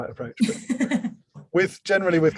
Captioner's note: laughs